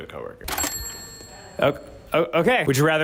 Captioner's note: cash register dings